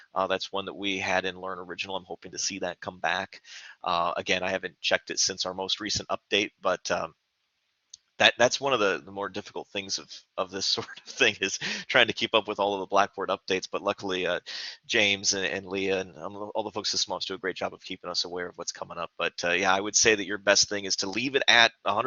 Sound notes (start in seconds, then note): 10.8 laughter